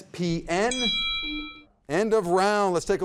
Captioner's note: bell dings